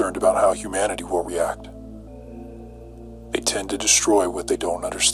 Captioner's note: none